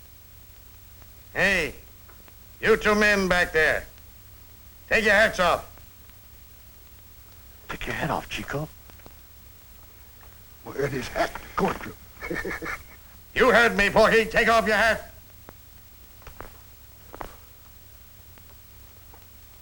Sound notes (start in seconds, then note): 12.7 laughs